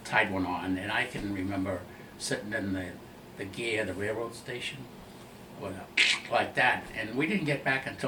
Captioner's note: makes cracking sound